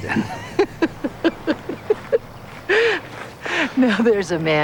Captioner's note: laughs